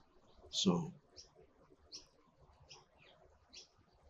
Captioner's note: birds chirping